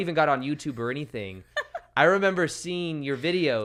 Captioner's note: laughs